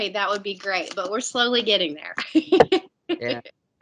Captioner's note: laughs